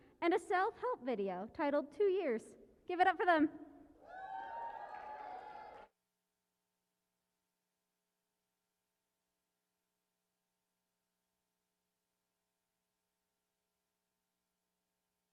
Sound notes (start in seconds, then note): 4.0 cheering and applause